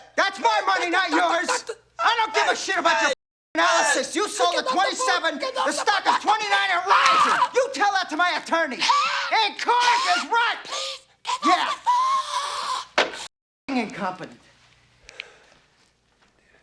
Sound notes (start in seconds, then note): 8.2 shrieks